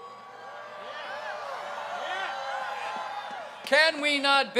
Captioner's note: crowd cheers